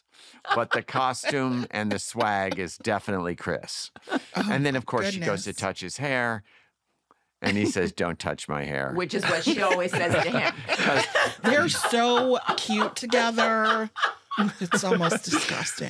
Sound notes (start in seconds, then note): 10.5 laughter